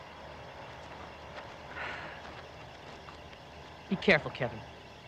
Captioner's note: sighs